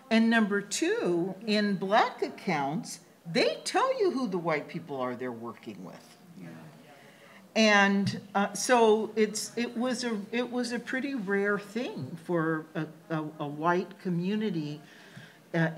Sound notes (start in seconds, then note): none